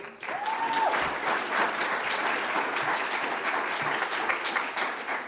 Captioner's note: audience applauds